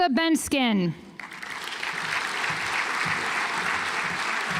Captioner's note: audience applauds